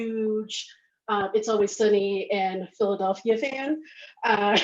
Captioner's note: laughs